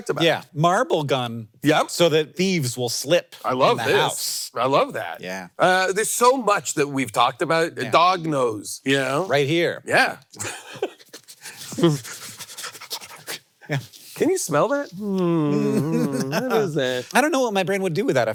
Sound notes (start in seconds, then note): 10.4 laughs; 11.1 both imitating dog sniffing; 15.2 giggles